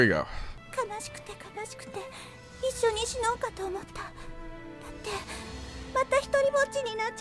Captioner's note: melancholy music; speaking in foreign language